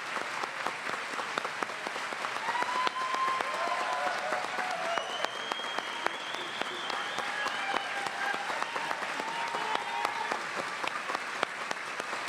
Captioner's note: cheers and applause